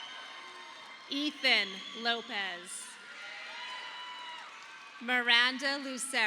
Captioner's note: audience applauding